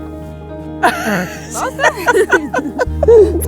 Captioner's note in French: rires